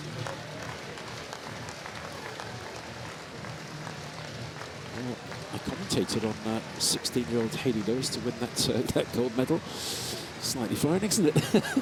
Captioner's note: applause